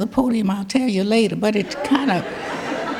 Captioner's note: audience laughing